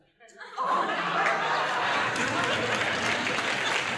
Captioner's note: applause